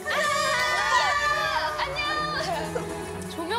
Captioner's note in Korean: 꺄르르